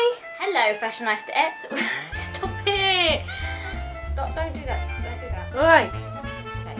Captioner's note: laughs